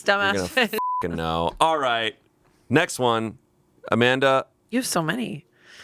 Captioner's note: beep